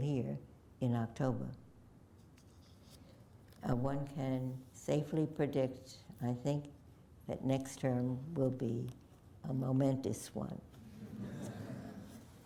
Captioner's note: laughter